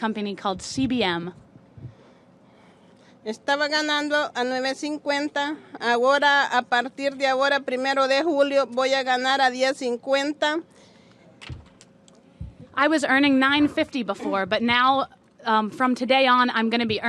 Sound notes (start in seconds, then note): 4.8 speaking spanish